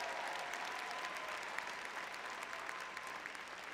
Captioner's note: applause